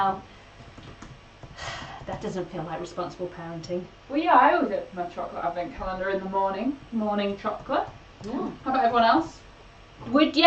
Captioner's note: sighs